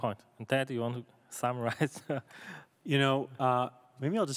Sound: laughs

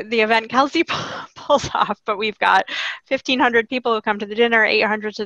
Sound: laughing

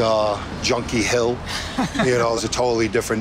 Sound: laughing

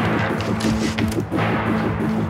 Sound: door opens

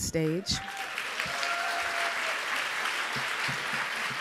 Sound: audience applauds

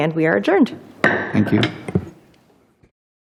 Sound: gavel taps

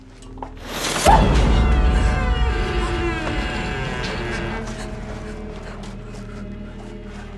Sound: door squeaking; lamb screaming

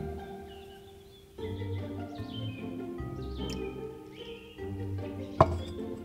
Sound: cream pours into tea

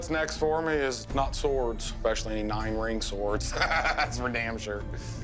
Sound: laughs

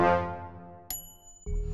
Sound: ding

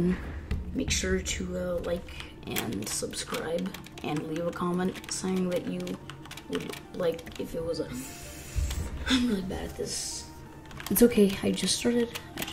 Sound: sniff

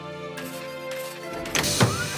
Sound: door opening

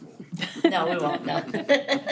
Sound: all laughing

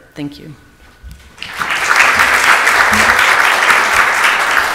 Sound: audience applauds

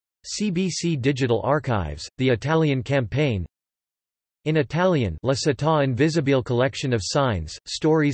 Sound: in Italian

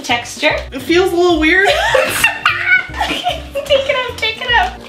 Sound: laughs

